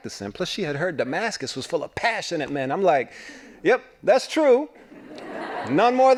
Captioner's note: laughing